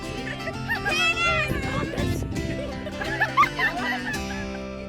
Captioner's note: guests laughing